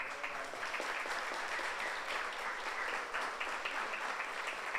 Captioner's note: audience applauds